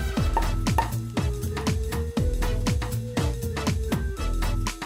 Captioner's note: wine bottles popping